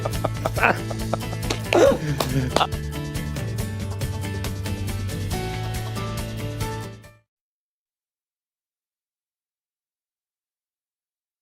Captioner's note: laughter